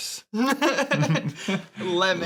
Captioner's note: laughing